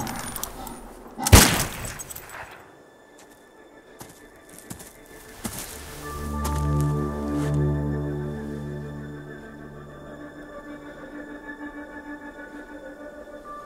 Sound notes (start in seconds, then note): 4.0 footsteps; 5.7 suspenseful music